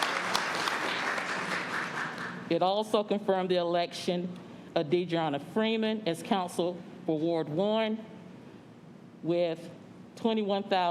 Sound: applause

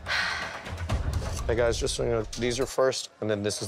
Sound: sighs

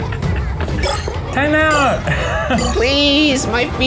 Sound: laughs

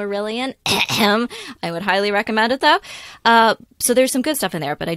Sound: coughing

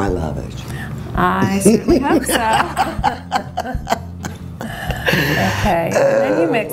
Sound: laughing

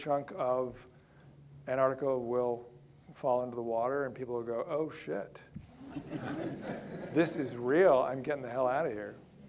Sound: audience laughter

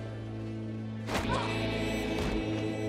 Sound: Joe moans

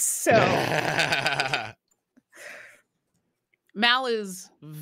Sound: laughing

